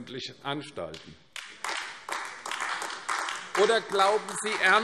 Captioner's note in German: Beifall AfD